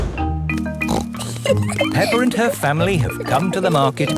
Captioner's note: snorts and giggles